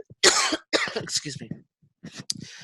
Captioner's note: coughing